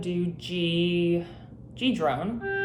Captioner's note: drone tone